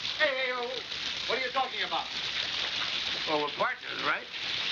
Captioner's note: none